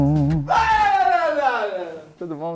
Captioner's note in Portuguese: gritando pra assustar